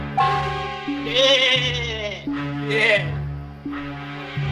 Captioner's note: bleating